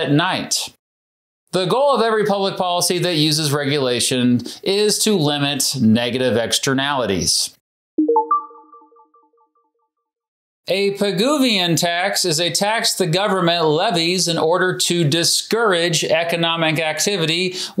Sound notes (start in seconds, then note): 8.0 information chiming